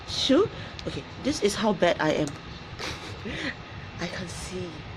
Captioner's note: laughs